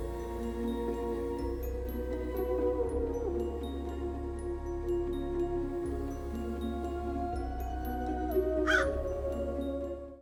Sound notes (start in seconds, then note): 0.2 bright music; 8.6 crow caws